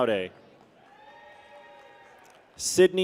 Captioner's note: people cheer